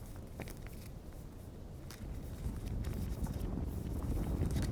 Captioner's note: ground rumbling